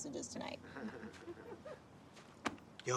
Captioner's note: laughter